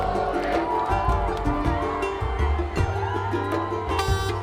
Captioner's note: people cheering and yelling; bus horn honking